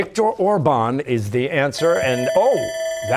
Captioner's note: bell ringing